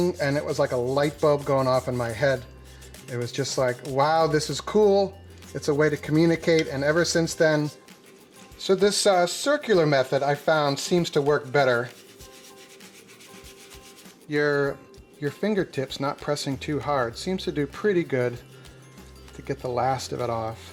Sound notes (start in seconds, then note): 11.9 rustling paper; 20.5 gentle music